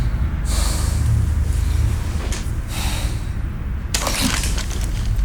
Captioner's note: hard breathing